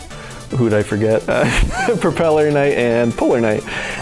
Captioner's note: laughs